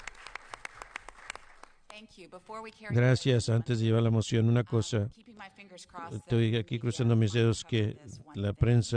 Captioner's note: applause